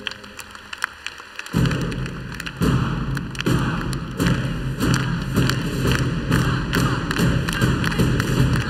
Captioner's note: applause